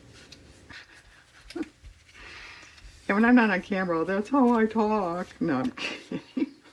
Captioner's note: laughs